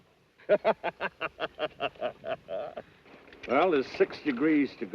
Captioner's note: laughing